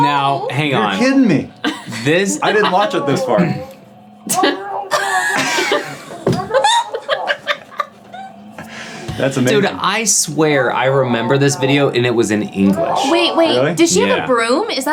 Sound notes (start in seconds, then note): 4.2 team laughing